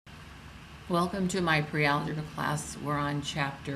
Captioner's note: voiceover